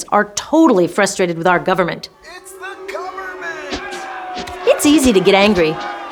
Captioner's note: angry Crowd yelling